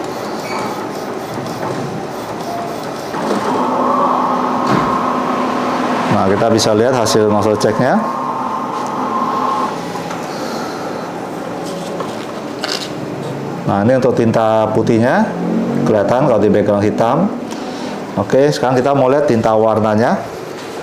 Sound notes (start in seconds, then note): 0.1 distant chattering; 0.1 printer machine sound; 2.9 moving tray sound; 5.8 printer machine sound; 12.1 plastic sound